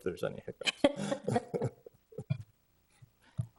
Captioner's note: chuckle